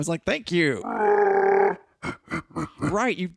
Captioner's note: Wookiee laughter